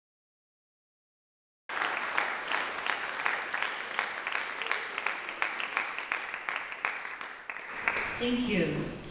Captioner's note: applause